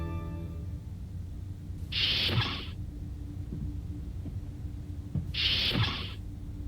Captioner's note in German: Türe öffnet und schließt sich